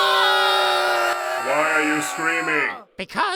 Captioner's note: screaming